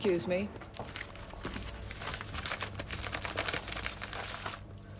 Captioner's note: paper shuffling